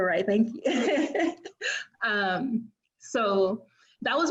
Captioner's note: laughing